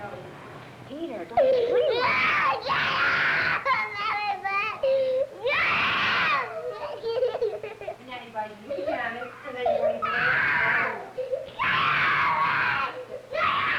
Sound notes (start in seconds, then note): 2.4 screaming; 11.5 screaming and crying